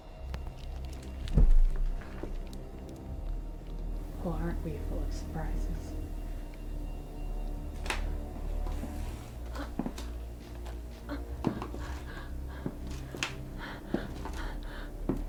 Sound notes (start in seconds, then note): 7.1 eerie music; 7.8 Lavinia turns around, breathes heavy, limping away injured